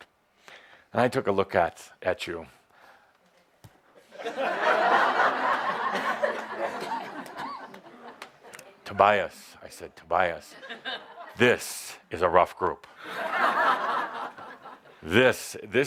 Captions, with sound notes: and I took a look at you. (laughter) “Tobias,” I said, “Tobias, this is a rough group.